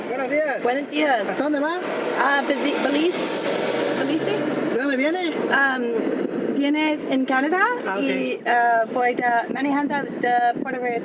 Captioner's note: spanish conversation at the Check Stop